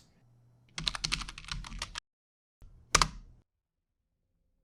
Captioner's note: keyboard clacking